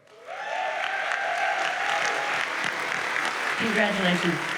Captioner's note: audience cheers and applauds